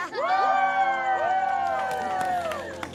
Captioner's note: crowd; crowd clapping